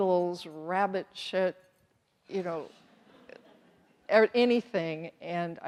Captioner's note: audience chuckles